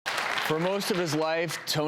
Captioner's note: audience clapping